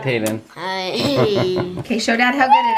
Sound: laughing

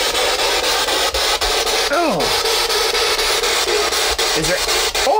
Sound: static buzzing

